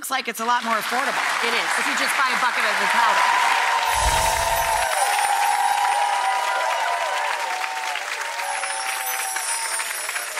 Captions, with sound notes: Well, this looks like it's a lot more affordable. It is. (audience applauding) You just buy a bucket of the powder. (audience cheering and applauding)